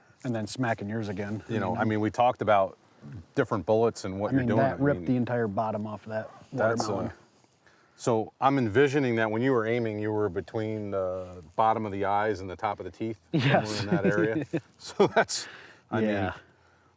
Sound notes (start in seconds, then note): 13.3 chuckles